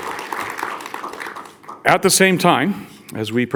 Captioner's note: audience applauds